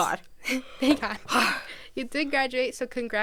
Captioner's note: sighs